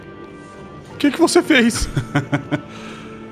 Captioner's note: laughs